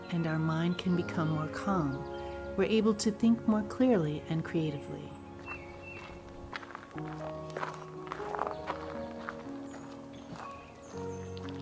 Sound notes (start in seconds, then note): 5.6 birds chirping; 5.6 gentle music